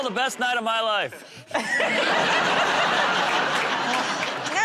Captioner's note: laughter